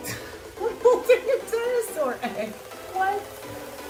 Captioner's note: laughs